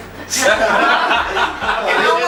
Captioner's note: laughs